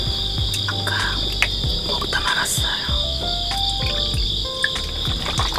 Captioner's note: whispering because it's early in the morning